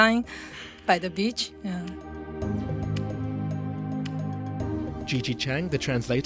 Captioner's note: voiceover